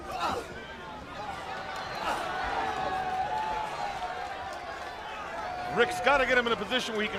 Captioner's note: crowd chatter